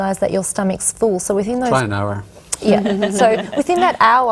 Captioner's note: some laughter